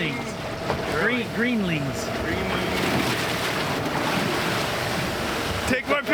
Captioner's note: water splashing